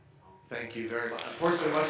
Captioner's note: audience applauding